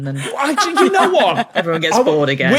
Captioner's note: laugh